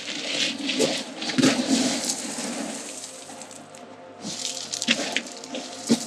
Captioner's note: rustling of rocks under shoes